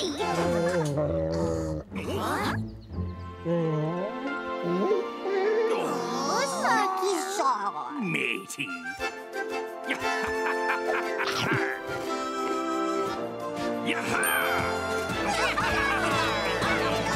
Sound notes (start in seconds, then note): 0.6 shark groaning; 3.0 whimpering; 9.8 laughing; 14.5 all laughing